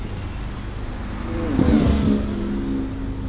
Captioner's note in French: Vrombissement du moteur